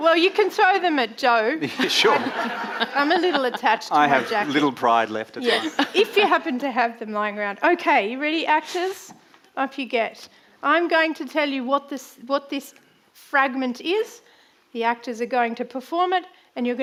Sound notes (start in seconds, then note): 1.6 audience laughing